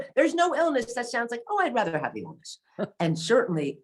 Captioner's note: chuckles